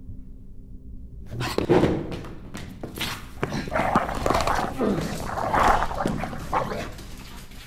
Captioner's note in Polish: odgłosy psa bawiącego się kością mp3